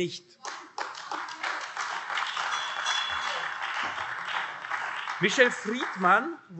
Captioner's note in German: Beifall AfD